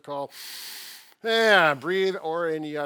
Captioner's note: deep breath